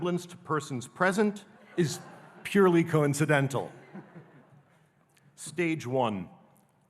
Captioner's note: audience laughing